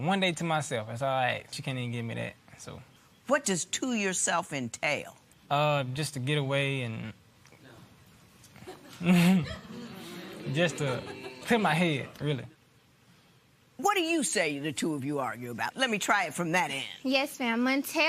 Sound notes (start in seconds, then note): 8.5 chuckles